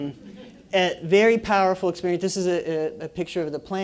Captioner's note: laugh